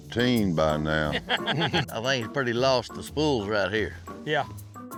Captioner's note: laugh